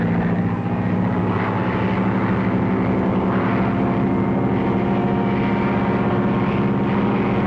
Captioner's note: plane buzzing